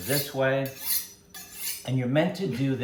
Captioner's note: knife chiming